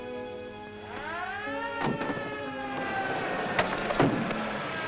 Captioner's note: siren wails